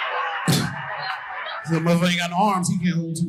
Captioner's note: audience laughing